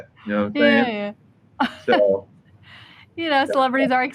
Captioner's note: chuckles